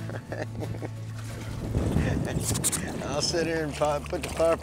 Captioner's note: laughs